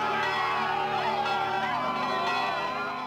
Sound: screaming; bell ringing

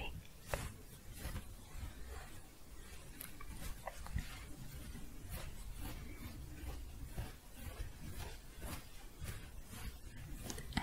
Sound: scratching

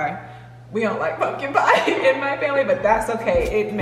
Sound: laughing

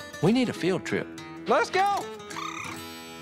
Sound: blows duck call

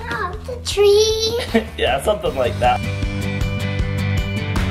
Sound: laughs

